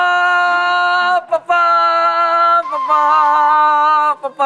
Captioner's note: arguing